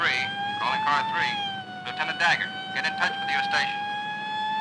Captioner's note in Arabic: تعليق صوتي